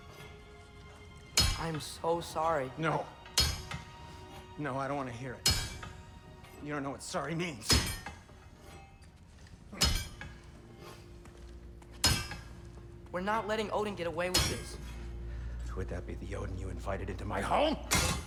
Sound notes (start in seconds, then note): none